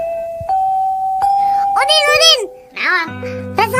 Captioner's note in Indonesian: lonceng